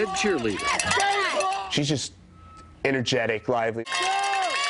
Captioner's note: cheering